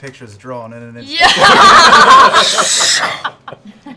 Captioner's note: laughter